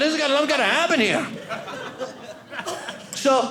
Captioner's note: audience laughing